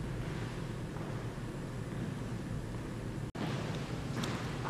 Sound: slow footsteps

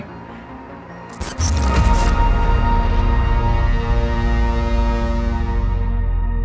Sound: tense music; static hissing

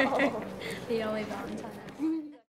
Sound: giggling

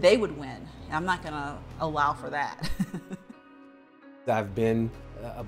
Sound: chuckles

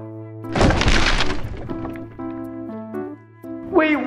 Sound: crunching

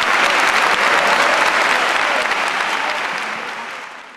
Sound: applause

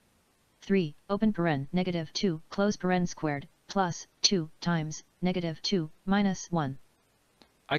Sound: synthesized speech

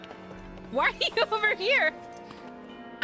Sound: laughing

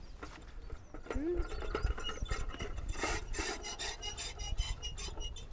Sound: scale creaks

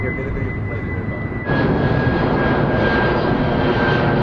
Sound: loud plane noises

